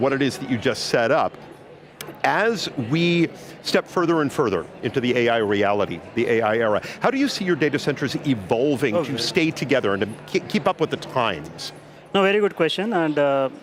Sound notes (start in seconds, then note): none